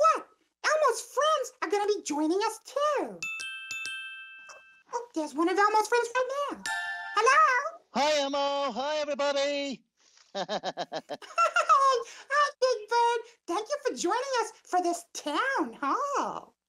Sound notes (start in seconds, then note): 3.2 chimes chiming; 10.3 Big Bird laughs